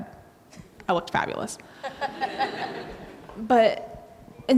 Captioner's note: audience laughs